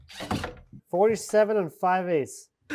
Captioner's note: power tool whizzing